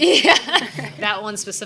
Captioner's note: laughing